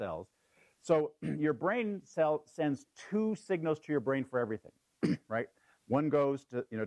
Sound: cough

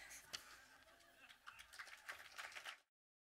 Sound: audience applause

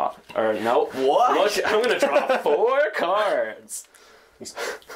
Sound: mockingly

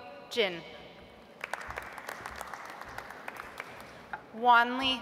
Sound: audience applauds

